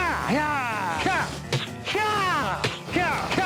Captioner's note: vocalizing whip crack